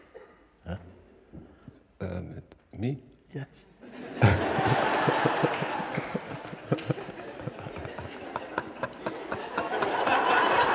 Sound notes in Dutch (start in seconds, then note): 5.5 gelach